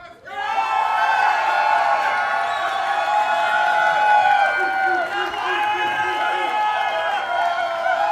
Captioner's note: cheers and applause